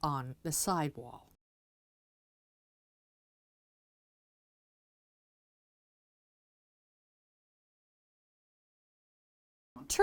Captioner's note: no Sound Present